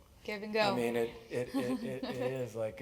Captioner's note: laugh